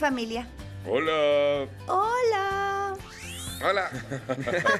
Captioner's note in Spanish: riendo